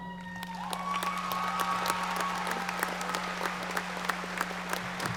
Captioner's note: audience applauding